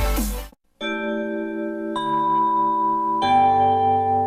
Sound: chime playing

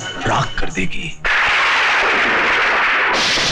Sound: thunder

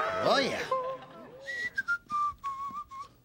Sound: whistling

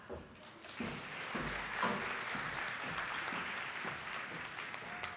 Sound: audience applauding

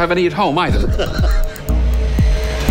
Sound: laughs

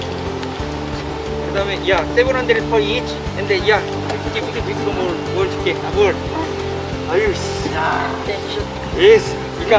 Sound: sighs

